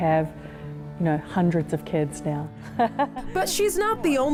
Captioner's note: laughs